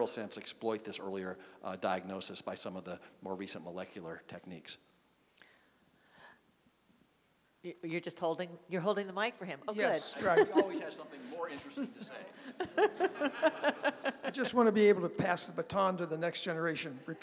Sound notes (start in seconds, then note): 10.1 laughter